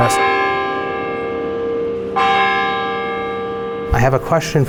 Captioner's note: bell tolls